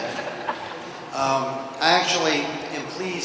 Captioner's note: laughter